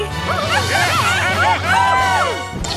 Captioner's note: cheering